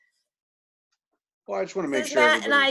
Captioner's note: chuckles